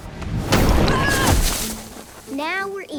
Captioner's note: shrieking